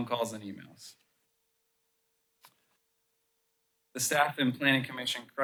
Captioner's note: pause